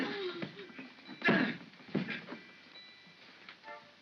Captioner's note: soft thump; Stan groans